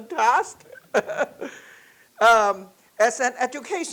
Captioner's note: chuckling